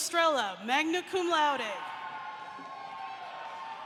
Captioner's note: applause